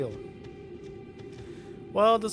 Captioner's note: breath in